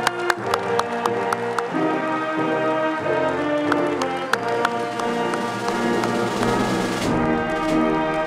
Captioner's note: applause